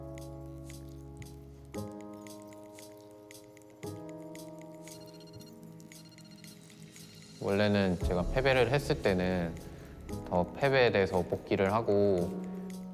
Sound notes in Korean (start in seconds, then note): 4.8 전화벨 소리